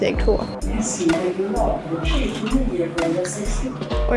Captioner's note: train announce